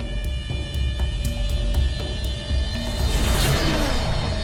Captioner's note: dramatic music; UFO revving